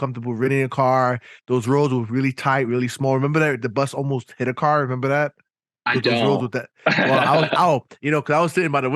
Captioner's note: laughing